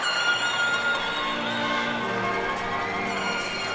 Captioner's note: air horns; cheers and applause